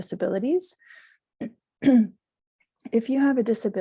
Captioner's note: clears throat